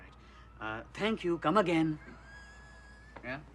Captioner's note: speaks in Indian accent; chuckles